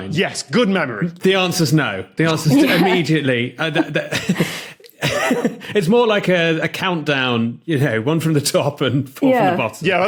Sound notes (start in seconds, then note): 3.6 scattered giggling